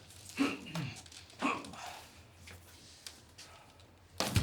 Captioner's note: Nazi grunting